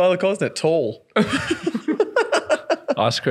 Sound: laughing

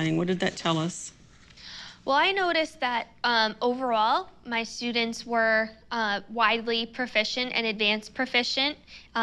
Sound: breath

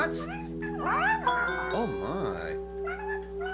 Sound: meowing

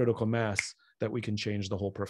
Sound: Simon snaps

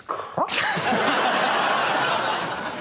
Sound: laughter

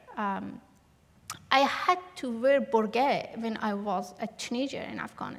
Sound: non-english

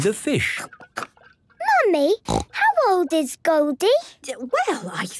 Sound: snorting

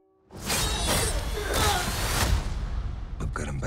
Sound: both grunting

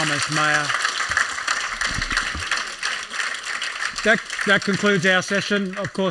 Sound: applause

